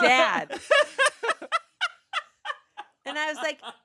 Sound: laughing

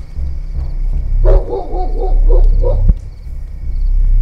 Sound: barking continues

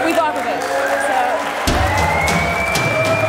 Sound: applause

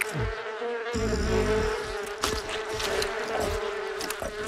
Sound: chewing; bees buzz

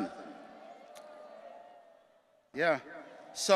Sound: audience cheering

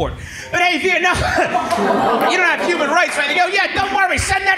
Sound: laughs

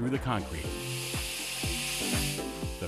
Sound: saw whirs

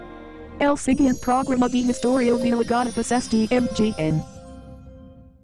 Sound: female announcer speaking Spanish

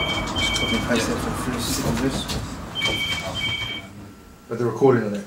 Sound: telephone rings

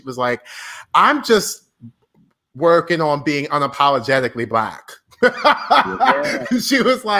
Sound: laughs

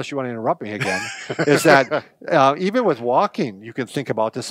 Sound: laughs

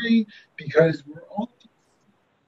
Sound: audio cuts out

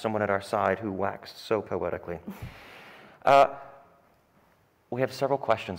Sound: Martha exhales

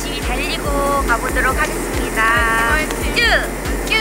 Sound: applause

